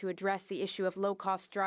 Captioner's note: speaking French